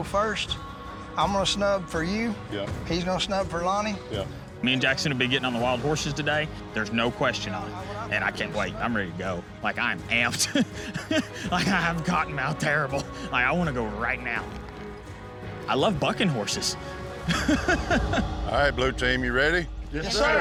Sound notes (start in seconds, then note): 10.3 chuckling; 17.2 laughing